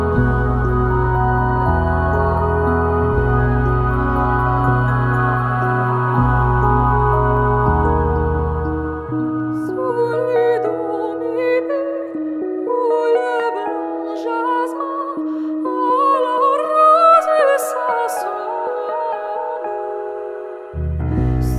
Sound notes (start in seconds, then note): 5.7 amidst twinkling lights and the vibration of large bells